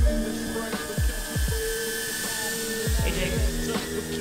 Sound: drone buzzes

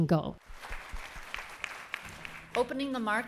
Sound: audience clapping

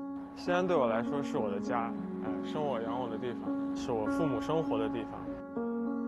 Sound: speaking in foreign language

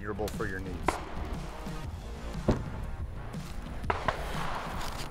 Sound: distant gunshot; upbeat music

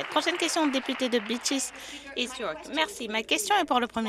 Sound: some Applause

